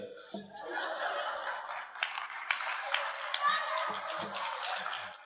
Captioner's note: audience applauds